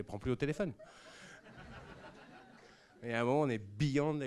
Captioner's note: laughs